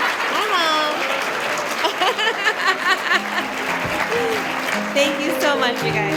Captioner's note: giggles as applause continues; applause continues